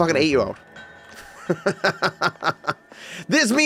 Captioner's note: laughs